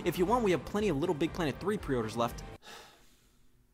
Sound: sighs

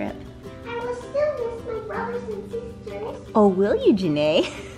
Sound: child's Voice

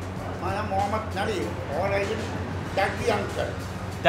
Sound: speaking foreign language

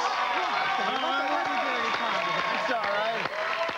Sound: cheers and applause

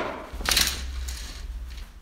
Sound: curtain opens

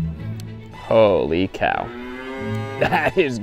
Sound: cow mooing

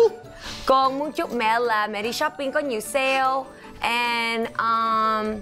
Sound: speaking foreign language

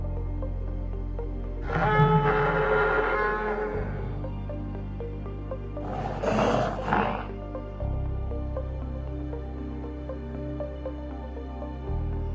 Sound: parasaurolophus screeching

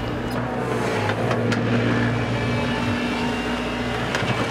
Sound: truck engine approaches

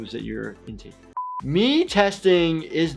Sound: buzzer beeps

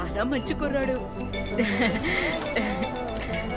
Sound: phone rings

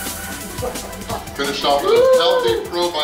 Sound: intense music; people cheering

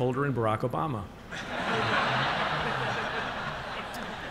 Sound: laughter

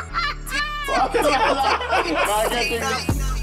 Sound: person laughs; group laughs

